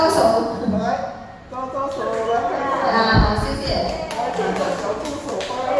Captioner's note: applause